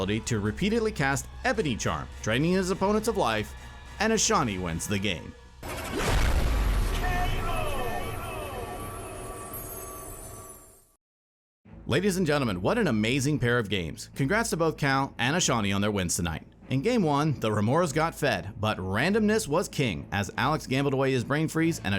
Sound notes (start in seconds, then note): 5.6 explosion